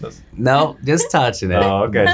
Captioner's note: laughing